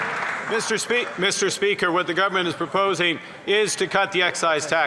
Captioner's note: some Applause